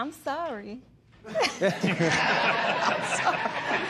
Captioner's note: laughter